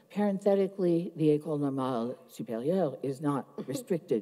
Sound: speaks foreign language

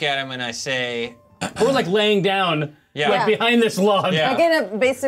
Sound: laughs

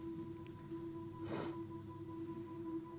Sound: sniffling

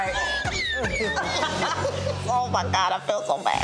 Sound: everyone laughing

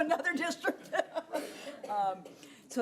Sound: laughing

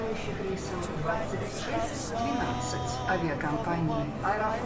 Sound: background announcements

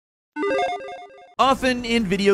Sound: electronic jingling

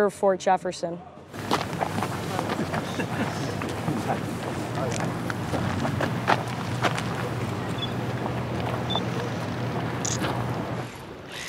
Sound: footsteps, chatter, camera click

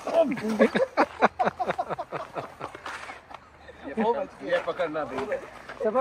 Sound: laughing

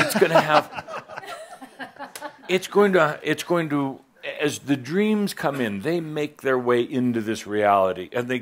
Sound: laughter

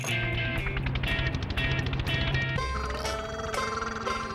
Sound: powerful engine; small sounding engine

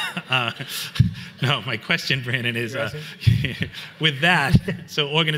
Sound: laughs; chuckles

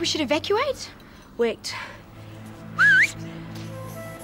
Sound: whistles

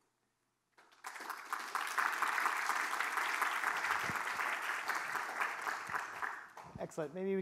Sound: applause

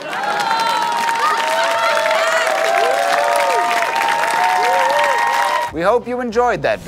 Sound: cheering

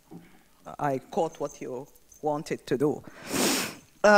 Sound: sniffles

